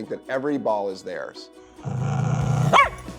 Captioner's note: growls; bark